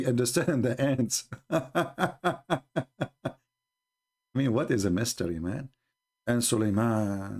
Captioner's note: Ketawa